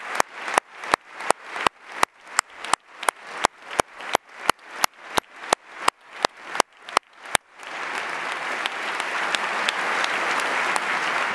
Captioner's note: applause